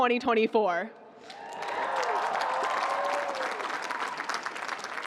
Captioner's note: cheering